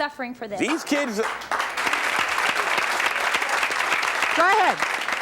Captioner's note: audience applauding